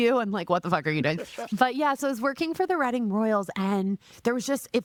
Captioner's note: laughing